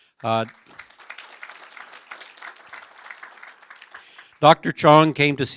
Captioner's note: applause